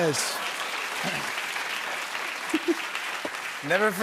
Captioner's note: applause